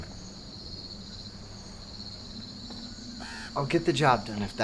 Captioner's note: crickets chirping